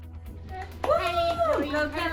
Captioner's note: clapping and cheering